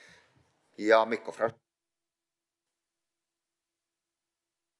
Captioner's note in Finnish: Ääniraita katkeaa